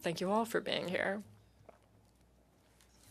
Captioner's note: speaking in French